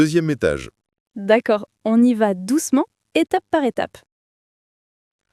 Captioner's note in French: rire